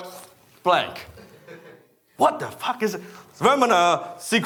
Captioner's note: audience member laughing